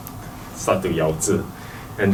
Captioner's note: slur